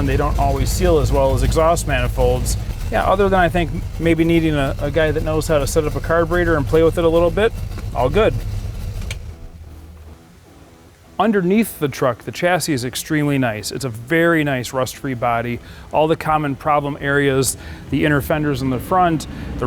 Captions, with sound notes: They don't always seal as well as exhaust manifolds. Yeah, other than that, I think, maybe, needing a guy that knows how to set up a carburetor and play with it a little bit. All good. (car engine revving) (rock music) Underneath the truck, the chassis is extremely nice. It's a very nice, rust-free body. All the common problem areas, the inner fenders in the front,